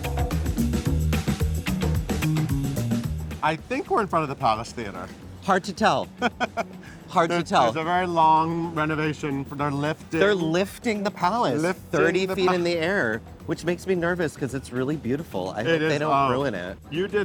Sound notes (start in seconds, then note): 0.0 upbeat music; 6.0 laughs